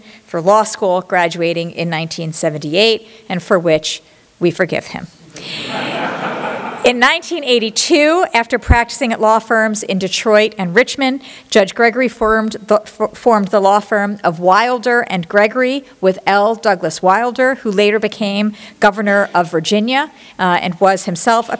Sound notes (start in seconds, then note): 5.4 laughter